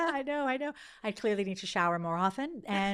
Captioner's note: laughing